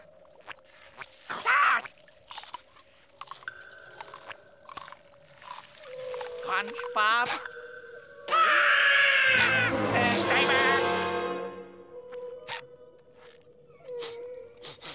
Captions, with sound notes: [crunching] SpongeBob? [yelling] Eh, stay back! [sniffing]